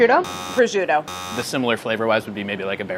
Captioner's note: buzzing